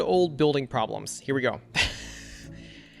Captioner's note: laughs